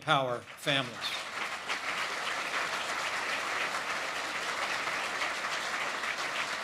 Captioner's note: applause